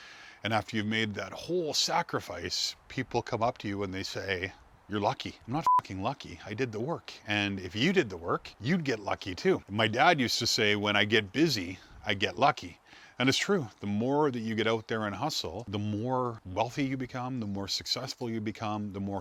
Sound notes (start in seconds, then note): 5.6 beep